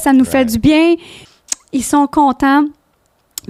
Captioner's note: in french